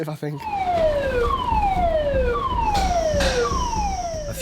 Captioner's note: siren blaring